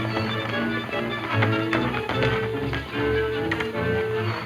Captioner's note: hooves clopping